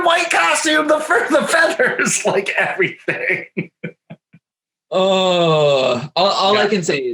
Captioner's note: laughs happily